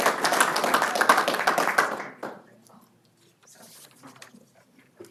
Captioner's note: applause